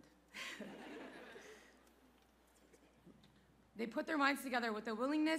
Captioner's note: laughter